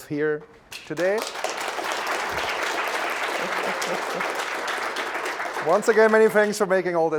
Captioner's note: applause; laugh